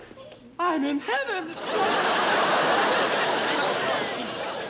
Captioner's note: laughter